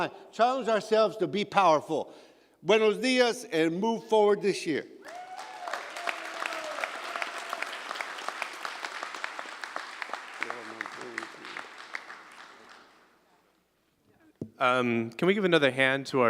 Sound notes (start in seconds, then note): 5.0 applause